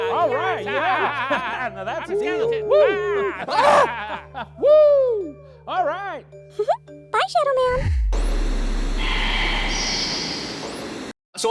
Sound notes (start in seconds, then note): 4.3 characters exclaiming; 6.6 giggles; 9.4 voiceover